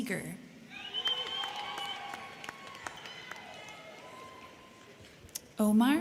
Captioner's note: crowd cheering; crowd clapping